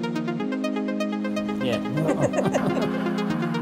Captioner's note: laugh